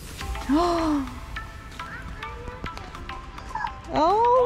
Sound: slow techno music; gasps

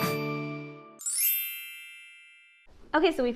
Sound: sparkle noise

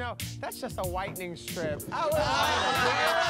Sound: laughter

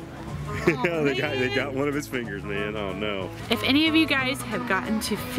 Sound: voiceover

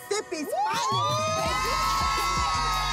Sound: cheering

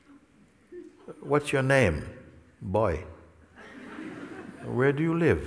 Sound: laughter

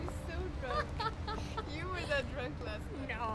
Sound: laughing

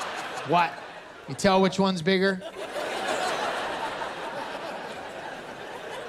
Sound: laughter; laughter

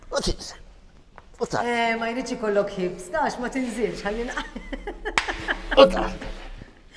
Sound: giggling

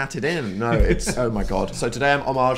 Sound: laughs

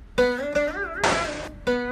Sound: door banging

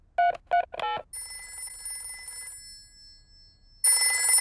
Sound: dialing phone; phone rings

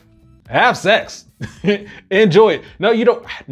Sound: chuckles

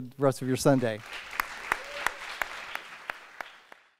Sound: applause

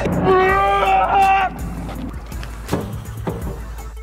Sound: screaming

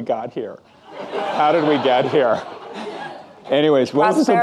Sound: audience laughing

